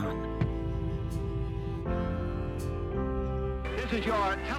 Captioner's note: gentle music; dramatic boom